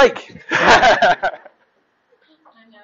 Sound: laughing

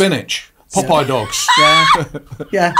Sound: laughing

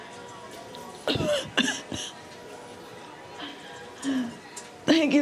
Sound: enters coughing

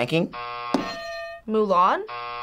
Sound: buzzer rings; bell rings

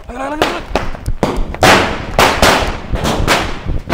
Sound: crackers exploding

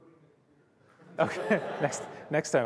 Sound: laughter

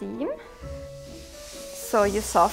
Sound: iron hisses

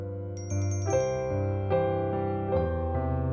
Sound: bell chimes

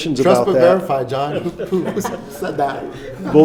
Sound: laughing

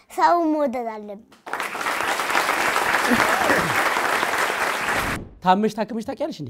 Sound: applause

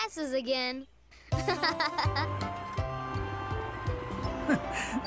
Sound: laughs

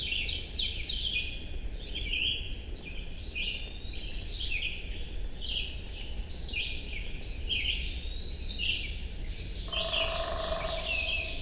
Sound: bird song plays

